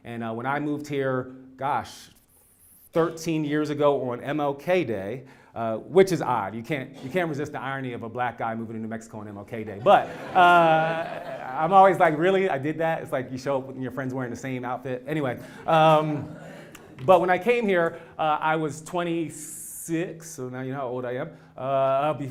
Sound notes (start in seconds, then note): 9.9 laugh